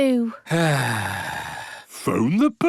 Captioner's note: sighs